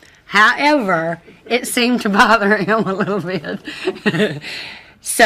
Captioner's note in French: Rires